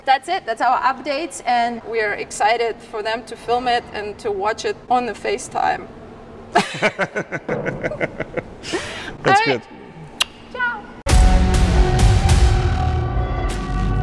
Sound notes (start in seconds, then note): 6.5 laughing; 11.2 upbeat music